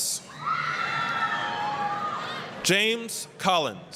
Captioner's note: applause, cheering